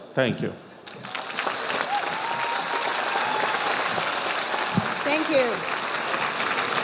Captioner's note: audience applauding